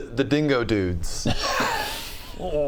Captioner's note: unconvinced laughter